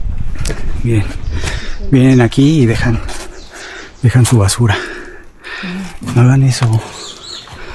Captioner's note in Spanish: suspiro